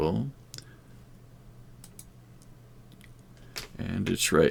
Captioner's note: mouse clicking